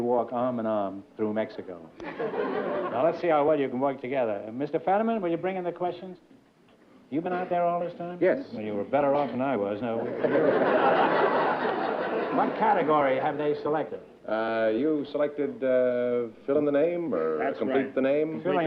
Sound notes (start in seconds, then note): 10.0 laughter